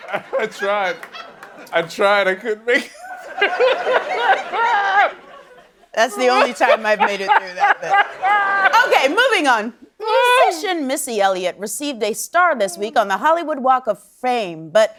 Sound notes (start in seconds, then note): 0.0 cheering and applause; 3.8 laughing